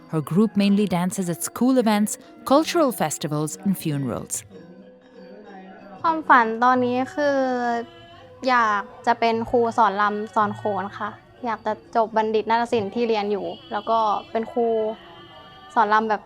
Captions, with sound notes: Her group mainly dances at school events, cultural festivals and funerals. (speaking foreign language)